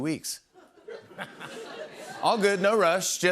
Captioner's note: laughter